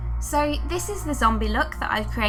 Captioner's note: voiceover